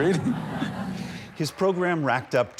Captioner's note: laughter